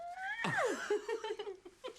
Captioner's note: Shauna squeals; Loz laughs; Shauna laughs